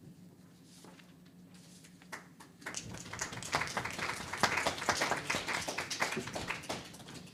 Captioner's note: audience applause